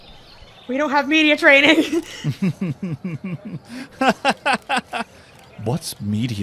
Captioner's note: laughing; laughs